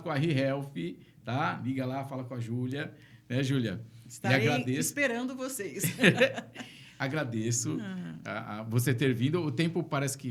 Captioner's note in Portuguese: risadas